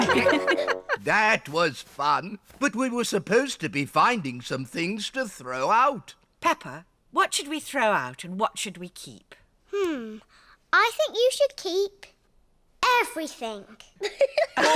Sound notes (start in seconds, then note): 11.8 all laugh